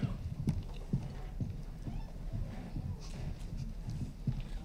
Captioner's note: footsteps patter